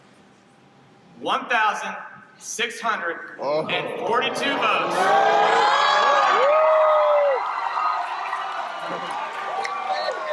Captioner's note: CROWD CRIES OUT WITH NOOOOO and OH NO'S